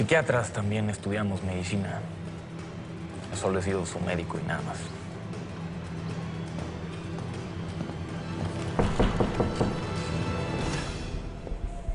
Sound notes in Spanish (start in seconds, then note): 8.6 Toques en la puerta